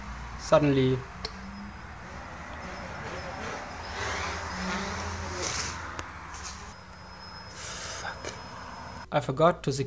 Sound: click; drone goes wumwumwum

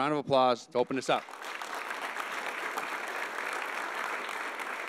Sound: audience applauding

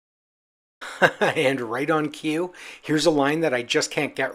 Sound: laughs

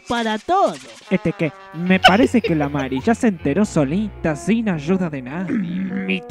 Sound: giggle

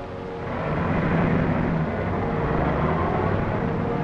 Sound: car rumbling

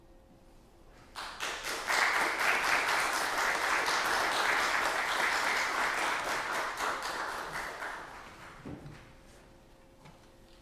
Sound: applause

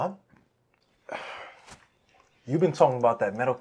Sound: breathing heavily

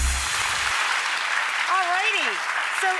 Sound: audience applauds

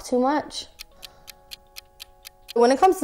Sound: clock ticking

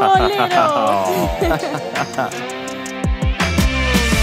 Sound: laughing

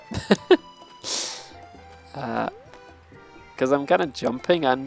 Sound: laughs

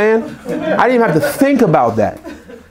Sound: group laughs

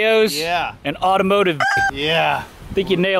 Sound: rooster sound

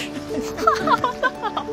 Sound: playful music; laughing

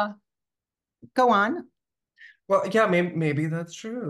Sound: none

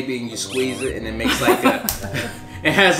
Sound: laughs

